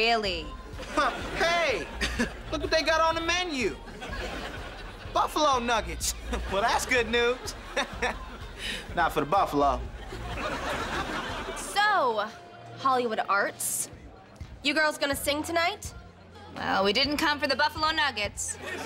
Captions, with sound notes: Huh. Hey, look what they got on the menu. Buffalo nuggets. Well, that's good news. [chuckles] Not for the buffalo. So, Hollywood Arts, you girls going to sing tonight? Well, we didn't come for the buffalo nuggets.